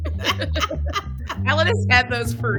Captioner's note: laughter